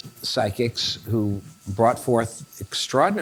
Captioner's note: none